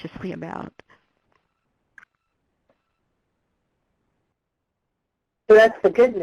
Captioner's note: pause